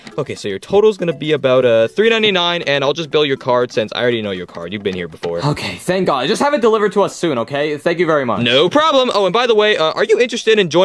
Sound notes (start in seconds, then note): none